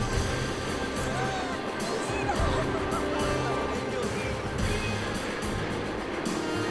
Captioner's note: couple speaking in foreign language